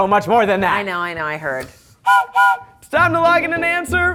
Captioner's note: whistle blows